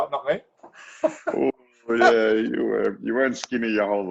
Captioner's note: chuckling